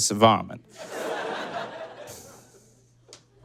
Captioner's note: audience laughs